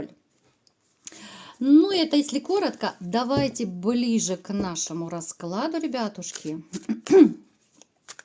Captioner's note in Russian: откашливается